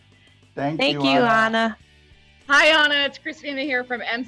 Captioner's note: speaking together